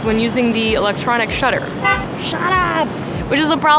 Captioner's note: car horn beeps